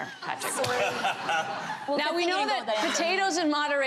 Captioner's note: laughter